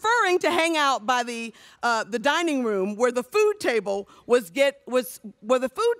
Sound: none

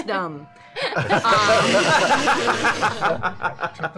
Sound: laughter

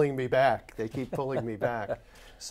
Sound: laughs

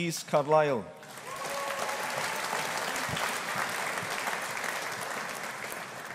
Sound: audience applauding

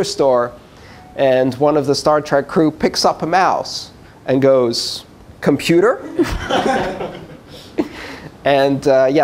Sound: laughter

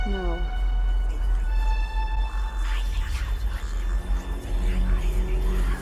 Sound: ominous music continues; eerie whispering

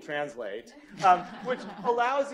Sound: laughter

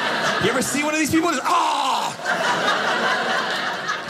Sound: loud coughing

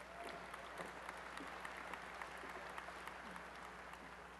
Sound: applause

